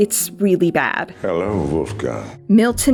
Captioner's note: whispers